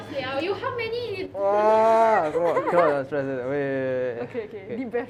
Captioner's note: groans in frustration